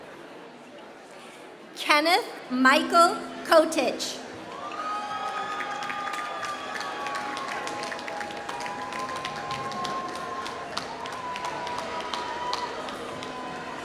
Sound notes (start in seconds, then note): 1.1 applause